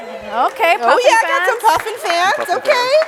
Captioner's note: audience cheers